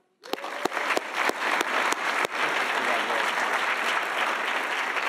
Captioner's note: audience applauding